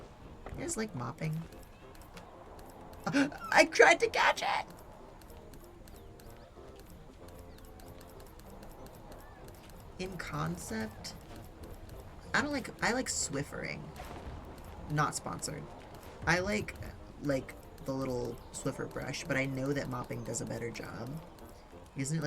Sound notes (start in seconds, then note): 3.0 gasps